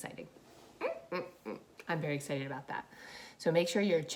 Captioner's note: squeaking